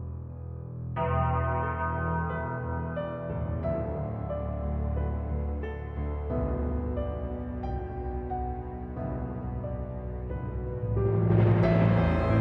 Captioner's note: bell tolls